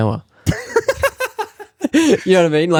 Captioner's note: laughing